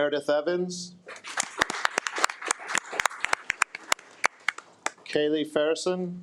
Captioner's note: attendees applaud